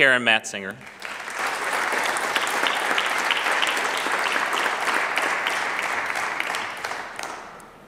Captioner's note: clapping